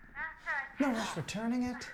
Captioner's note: Dr. Bonner gasps